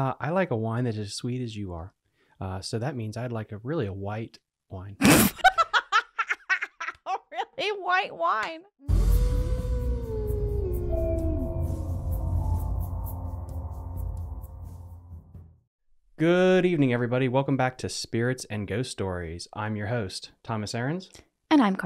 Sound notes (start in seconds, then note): 5.1 cackling; 9.1 wolves howling